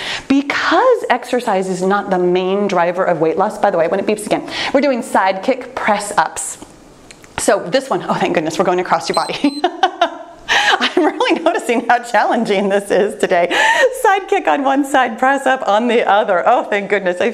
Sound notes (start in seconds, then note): 9.1 timer beeps; 9.1 laughs